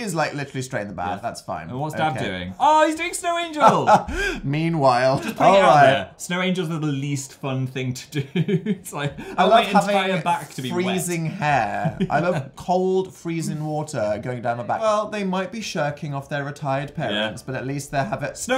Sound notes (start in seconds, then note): 5.1 laughing